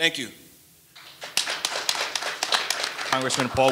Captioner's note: audience applauding